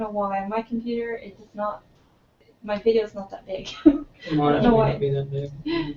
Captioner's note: laugh